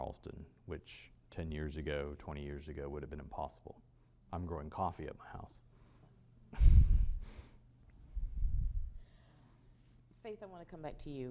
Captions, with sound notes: which ten years ago, 20 years ago would have been impossible. I'm growing coffee at my house. (muted laugh) Faith, I want to come back to you.